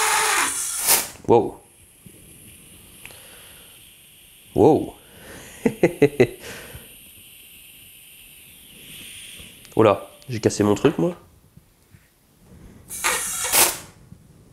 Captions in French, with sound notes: Wow. *bruit de fuite d'air* Oulà. J'ai cassé mon truc ?